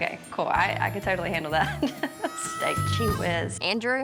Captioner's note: laughs